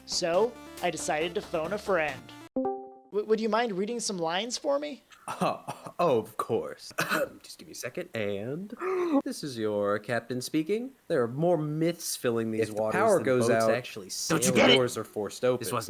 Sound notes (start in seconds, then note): 6.9 cough; 8.8 inhale